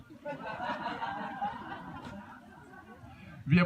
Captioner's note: laughter